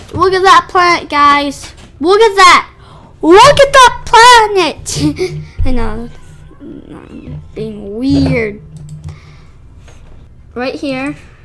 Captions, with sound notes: Look at that planet, guys! Look at that! Look at that planet! Hehe [laughter] I know... I'm being weird. Right here